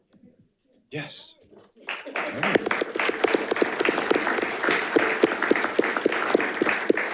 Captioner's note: audience applauding